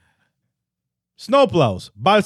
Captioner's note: speaking In Foreign Language